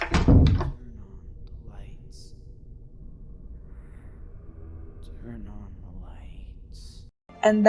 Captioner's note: whisper